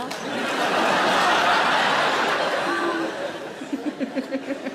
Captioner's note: audience laughs; Sarah laughs